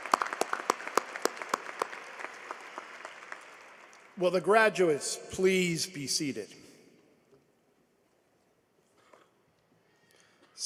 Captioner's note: applause